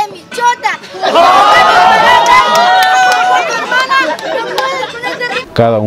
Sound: audience Cheers

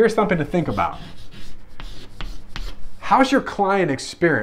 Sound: chalk rubs against chalkboard

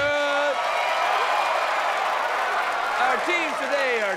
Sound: cheers and applause

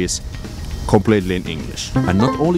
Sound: ding

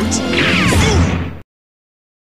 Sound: thud

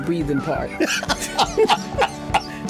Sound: both laugh

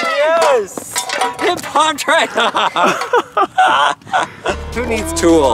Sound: speaks in foreign language; laughs

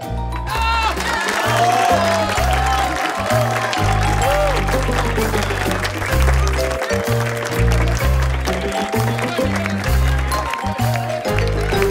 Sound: applause

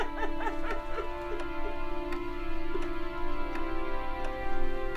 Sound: cries uncontrollably

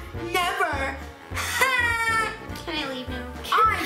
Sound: loud laugh

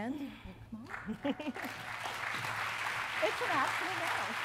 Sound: applause

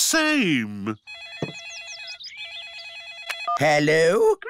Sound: phone rings

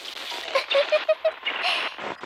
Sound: laughter

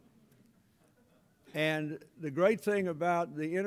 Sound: laughter

